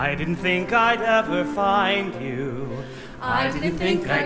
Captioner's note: none